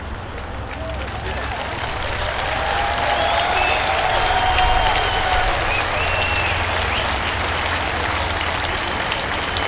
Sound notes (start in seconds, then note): 0.5 students clapping; 1.2 students cheering